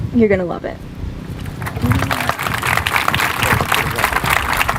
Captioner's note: applause